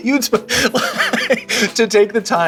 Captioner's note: laughing